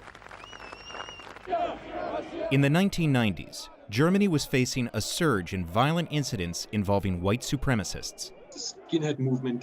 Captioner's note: applause